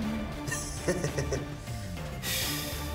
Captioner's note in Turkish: Gülüyor